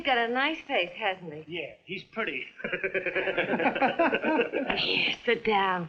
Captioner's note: laughing